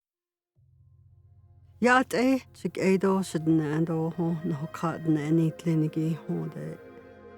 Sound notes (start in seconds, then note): 0.0 speaker talking in indigenous language